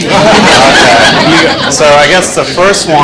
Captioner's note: class laughing